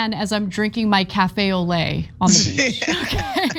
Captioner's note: laugh